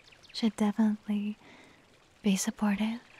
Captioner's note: none